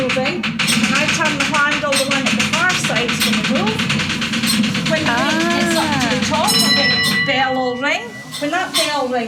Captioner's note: ding!